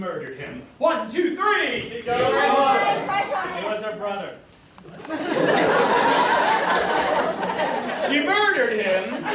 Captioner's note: audience shouts